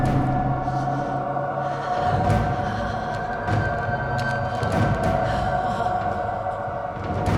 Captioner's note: Elaine shivers and moans; dark intense music